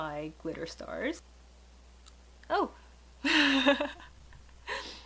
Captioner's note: laughs